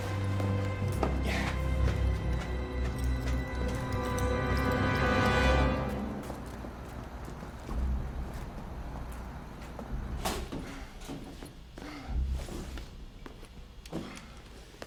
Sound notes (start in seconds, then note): 1.1 Ray grunts; 10.1 panting